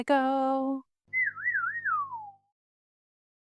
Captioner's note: whistle